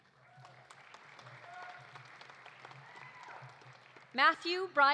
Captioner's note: audience applauding; audience cheering